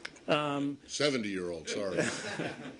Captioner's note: laughter